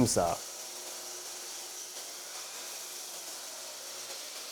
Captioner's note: beam saw whirring